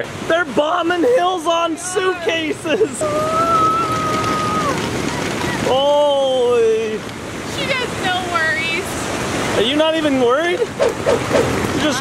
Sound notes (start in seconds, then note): 3.0 exclaiming; 10.7 air whooshing